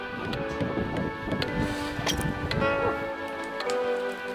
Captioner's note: gentle music; hammer pounding